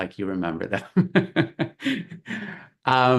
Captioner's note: laughs